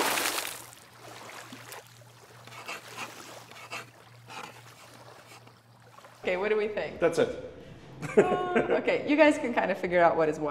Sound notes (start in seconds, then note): 0.0 water spatters; 0.0 water sloshes; 2.5 pencil scratches; 8.0 laughs